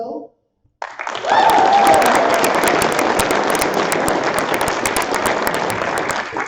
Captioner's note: applause